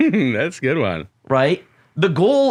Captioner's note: chuckles